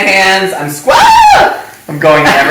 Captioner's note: screams